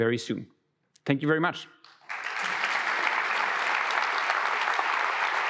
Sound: audience applause

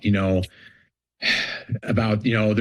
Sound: sighs

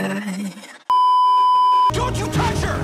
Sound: beeeeeep

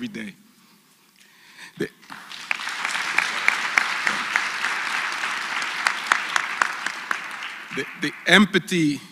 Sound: applause

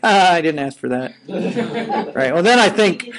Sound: students laughing

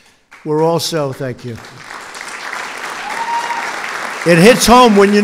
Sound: applause

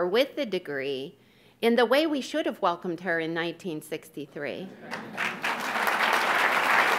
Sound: audience claps

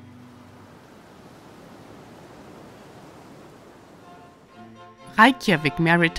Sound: wind blowing; tranquil music

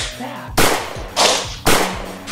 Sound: bang!

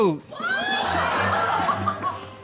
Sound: laughter

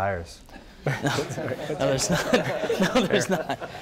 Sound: audience and panel laugh

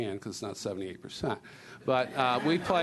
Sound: laughter

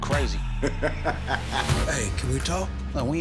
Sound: laughing

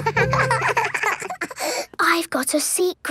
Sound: both giggling

